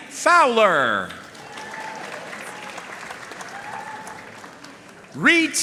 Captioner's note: audience cheering and applauding